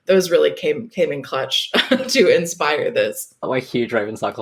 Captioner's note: laughing